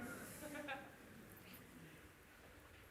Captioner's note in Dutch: gelach